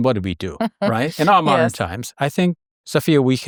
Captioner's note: laughs